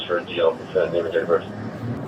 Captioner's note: radio chatter